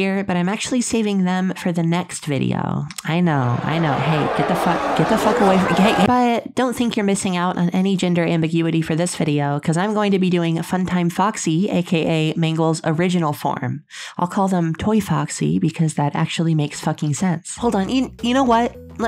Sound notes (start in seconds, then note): 3.3 growing boos